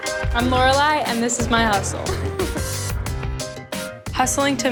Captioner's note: laughs